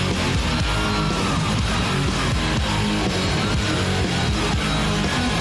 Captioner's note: crowd screaming